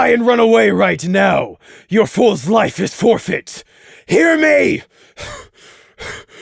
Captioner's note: pant